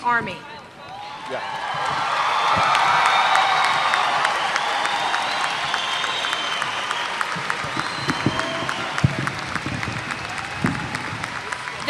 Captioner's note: applause